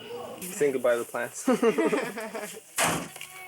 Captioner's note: people laugh